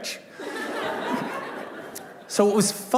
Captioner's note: laughter